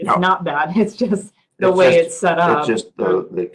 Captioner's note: laugh